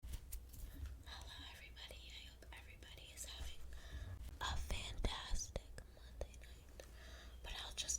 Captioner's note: whispering